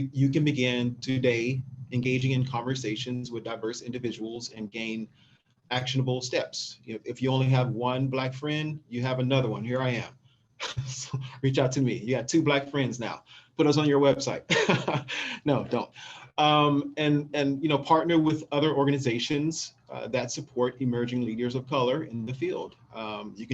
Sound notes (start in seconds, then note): 14.4 laughs